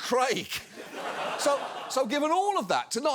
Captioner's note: audience laughs